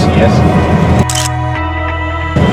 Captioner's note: photo click